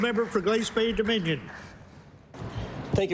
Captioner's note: applause